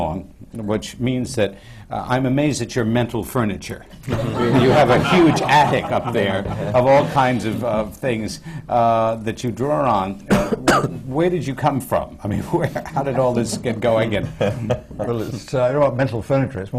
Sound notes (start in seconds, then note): 4.1 laughter